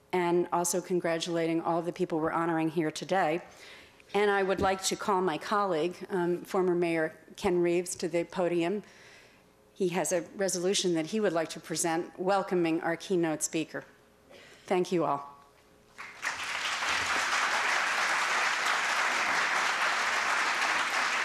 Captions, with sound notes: and also congratulating all the people we're honoring here today. And I would like to call my colleague, former Mayor Ken Reeves to the podium. He has a resolution that he would like to present, welcoming our keynote speaker. Thank you all. [APPLAUSE]